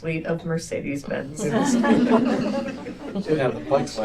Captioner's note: laughter